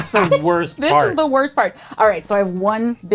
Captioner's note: laughter